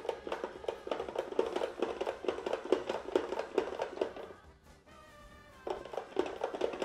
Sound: vegetable spiralizer clacking

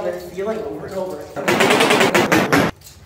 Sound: bang

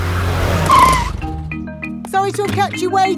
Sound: brakes squeal

